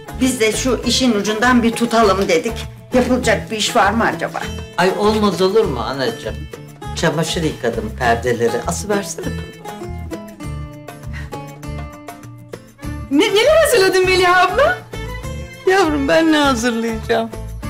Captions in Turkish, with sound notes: Biz de şu işin ucundan bir tutalım dedik. Yapılacak bir iş var mı acaba? Ay olmaz olur mu anacığım? Çamaşır yıkadım, perdeleri asıversene hadi. (Nefes sesi) Ne-neler hazırladın Meliha abla? Yavrum, ben ne hazırlayacağım?